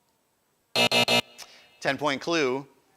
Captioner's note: buzzer